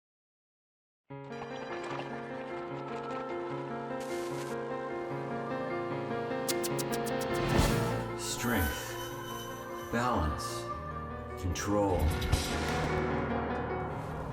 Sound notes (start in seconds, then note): 1.3 horse hooves and neighing; 2.1 piano music